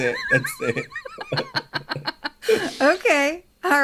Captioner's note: both laugh